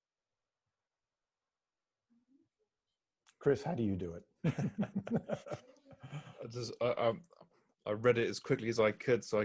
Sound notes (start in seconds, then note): 4.4 laugh